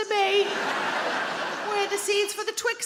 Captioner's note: audience laughing